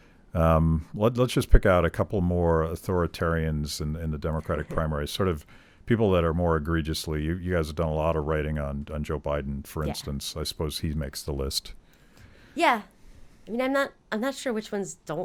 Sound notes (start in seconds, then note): 4.9 chuckling